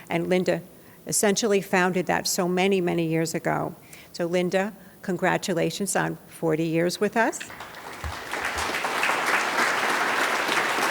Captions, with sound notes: and Linda essentially founded that so many, many years ago. So Linda, congratulations on 40 years with us. (audience claps)